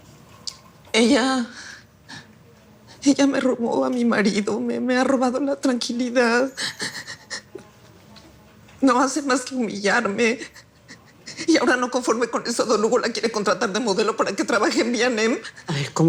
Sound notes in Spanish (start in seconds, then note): 7.9 Sollozos